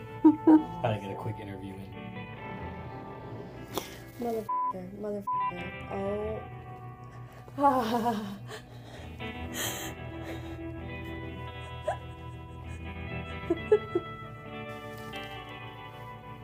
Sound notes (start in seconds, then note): 0.1 laughing; 10.9 whimpering